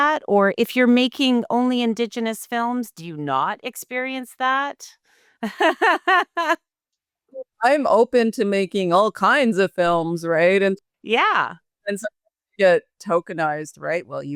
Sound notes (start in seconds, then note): 5.4 laughing